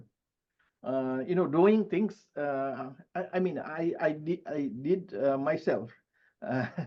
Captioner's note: chuckles